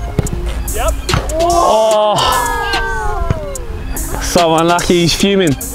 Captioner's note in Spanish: vítores de la multitud